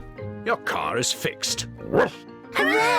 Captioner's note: barks